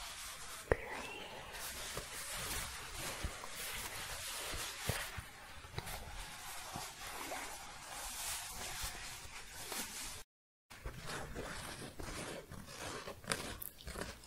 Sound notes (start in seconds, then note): 3.0 shuffling; 10.8 scratching